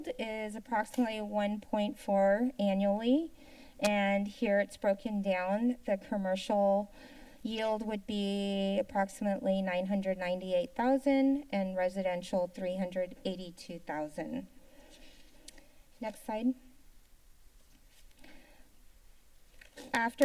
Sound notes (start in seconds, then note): 15.0 tongue clicking; 16.7 silence